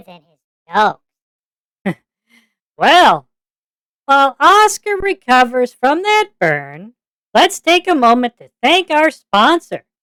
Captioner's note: chuckles